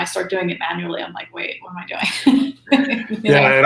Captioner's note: laughs